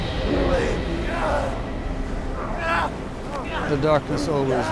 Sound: grunting

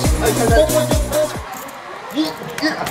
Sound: kisses

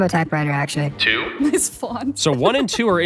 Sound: laughs

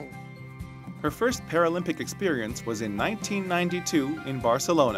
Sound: voiceover

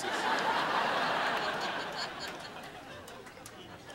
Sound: crowd laughing

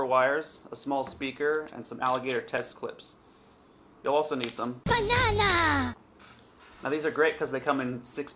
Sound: said in Minion voice

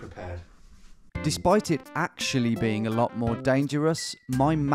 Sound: voiceover

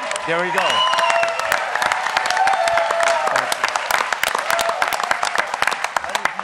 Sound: applause

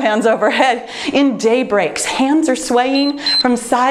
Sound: timer beeps

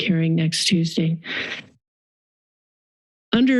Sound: silence

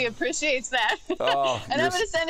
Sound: laughter

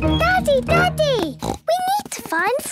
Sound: snorts

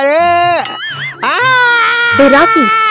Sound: screaming

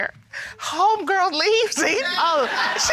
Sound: laughs

